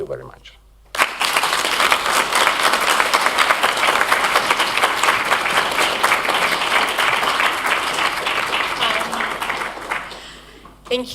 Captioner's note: applause